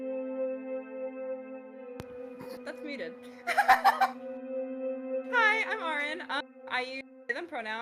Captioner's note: laughs